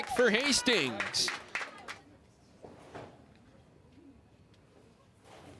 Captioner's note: crowd cheers and applauds